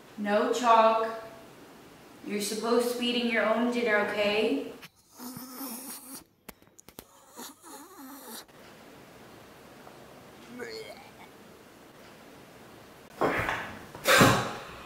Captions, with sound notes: No Chog. You're supposed to be eating your own dinner. Okay? (Dog vomiting)